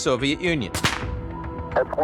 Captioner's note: confetti popping